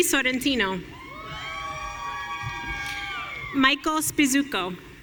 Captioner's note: audience cheering